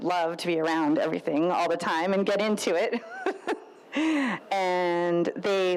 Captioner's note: laughs